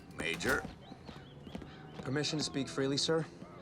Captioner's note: footsteps tapping